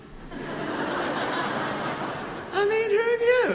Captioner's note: audience laughing